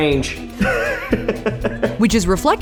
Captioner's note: laughs